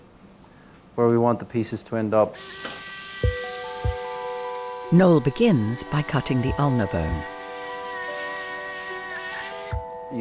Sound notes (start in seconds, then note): 2.3 drill whirring; 3.0 gentle pensive music; 7.8 drill whirring; 7.8 gentle pensive music